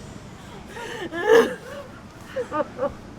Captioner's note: crying